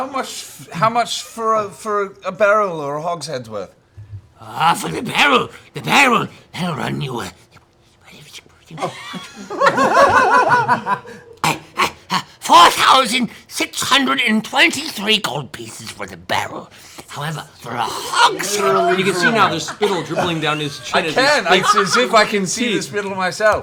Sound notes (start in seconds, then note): 9.3 mutters